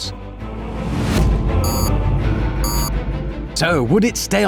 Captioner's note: beep, beep